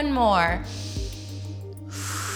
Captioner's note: exhales; inhales